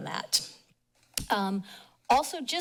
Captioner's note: pause